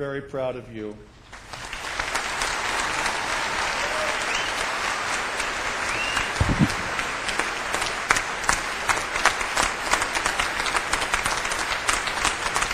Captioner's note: clapping